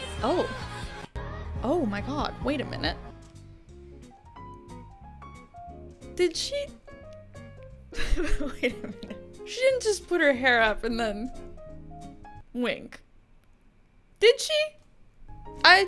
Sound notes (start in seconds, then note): 3.3 playful music; 8.0 laughs